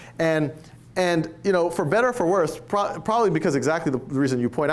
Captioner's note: none